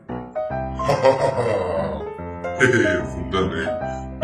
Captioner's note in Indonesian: ketawa